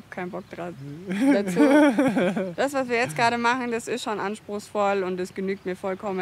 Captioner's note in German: lacht